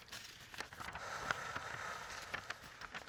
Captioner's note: exhaling